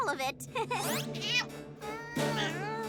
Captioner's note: laughs sheepishly; cat meows